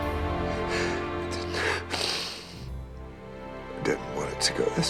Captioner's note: crying